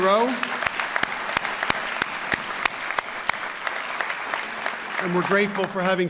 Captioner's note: applause